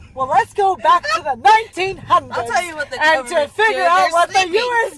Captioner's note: laughs